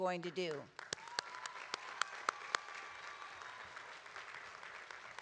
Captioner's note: audience applauding